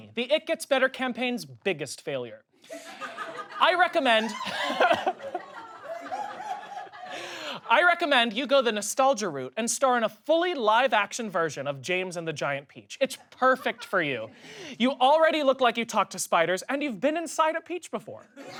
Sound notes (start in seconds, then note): 2.7 laughs; 2.7 audience laughs